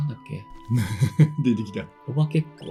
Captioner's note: laughs